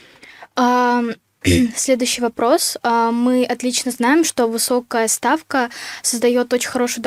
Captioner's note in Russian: откашливается